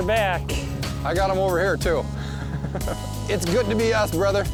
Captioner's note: laughs